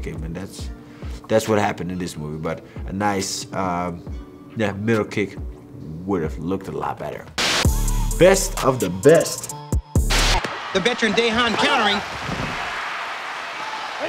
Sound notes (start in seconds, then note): 7.4 static crackles; 7.4 upbeat music; 10.1 static crackles; 12.8 crowd cheering